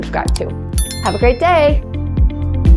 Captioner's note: bell ringing; upbeat music continues